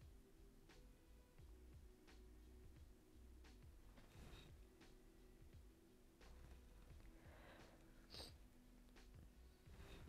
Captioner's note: overwhelmed sniffles